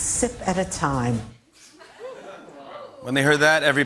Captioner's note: laughter